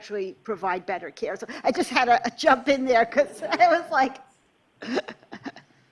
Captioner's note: laughter